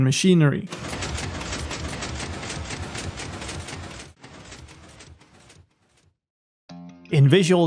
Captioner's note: piston Noises